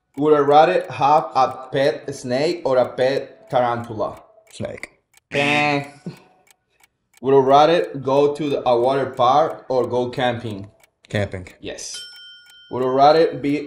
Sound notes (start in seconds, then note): 5.3 buzzer sounds; 11.9 bell dings